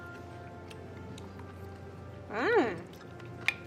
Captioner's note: all chewing